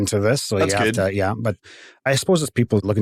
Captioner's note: chuckles